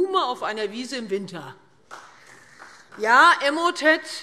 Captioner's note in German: Beifall Freie Demokraten